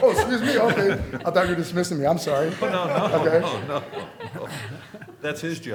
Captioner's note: laughter